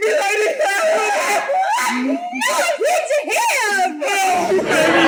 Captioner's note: weeping